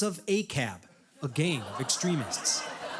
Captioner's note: studio audience groans